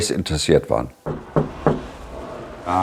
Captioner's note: knock